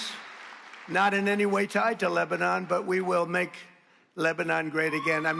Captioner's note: cheers and applause